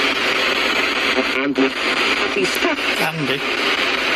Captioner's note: Ovilus speaking